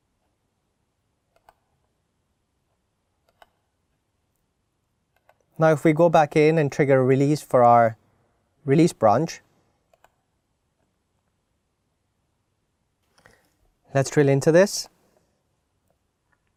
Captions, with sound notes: (mouse clicking) Now, if we go back in and trigger release for our release branch... Let's drill into this.